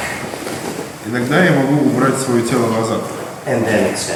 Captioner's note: speaking in a foreign language